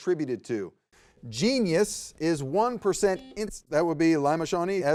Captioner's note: buzzer beeps